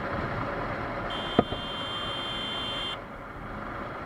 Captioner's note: horn